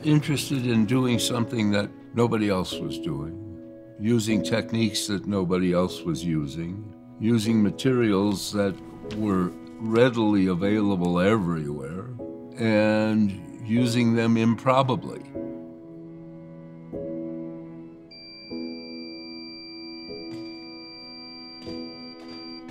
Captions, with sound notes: Interested in doing something that nobody else was doing, using techniques that nobody else was using, using materials that were readily available everywhere and using them improbably. (machine beeping)